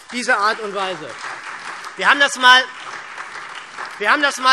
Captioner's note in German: Beifall SPD und vereinzelt DIE LINKE